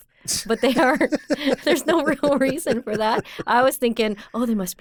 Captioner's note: laughs